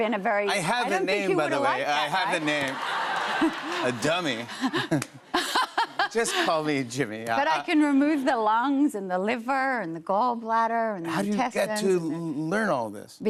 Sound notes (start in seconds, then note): 2.4 laughter; 2.4 chuckles; 5.3 laughs